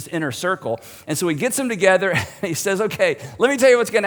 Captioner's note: chuckles